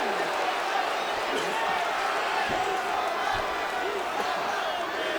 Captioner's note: audience chanting